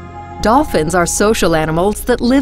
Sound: voiceover

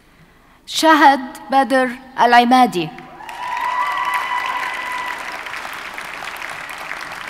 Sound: audience cheers and applauds

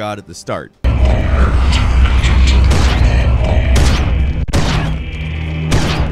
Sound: gun firing; beast growing

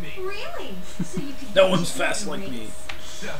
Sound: chuckling

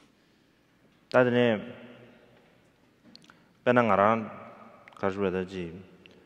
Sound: speaking in foreign language

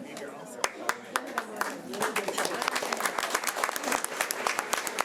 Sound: audience applauding

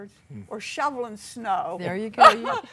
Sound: laughing

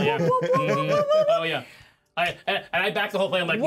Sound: speaker laughs

